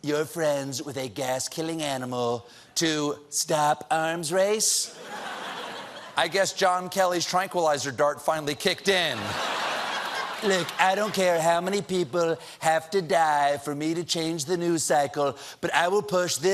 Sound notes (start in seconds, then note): 9.1 laughter